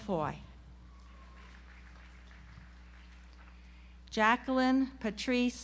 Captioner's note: audience applauds